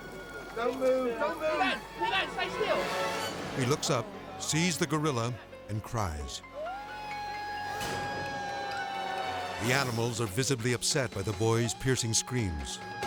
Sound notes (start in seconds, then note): 1.1 intense music; 6.6 crying